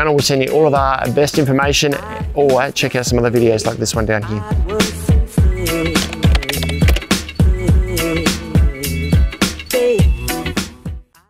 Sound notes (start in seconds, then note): 4.6 outro music; 5.9 keyboard clicking